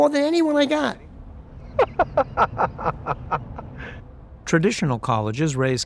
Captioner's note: laughs